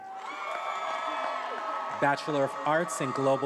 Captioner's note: attendees applauding and cheering